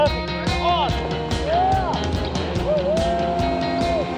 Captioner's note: cheering